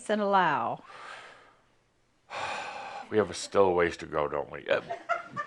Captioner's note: sighing; a few giggles